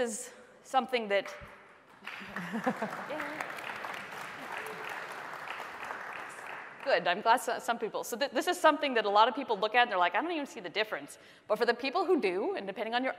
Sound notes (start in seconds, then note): 5.7 applause